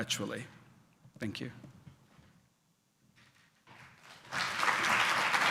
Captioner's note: applause